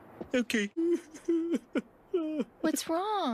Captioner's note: Homer crying